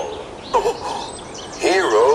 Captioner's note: hiro gasps